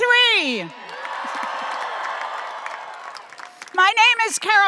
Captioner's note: audience applauding and cheering